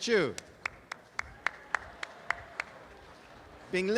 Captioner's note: audience applause